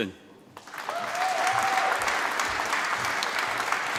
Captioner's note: applause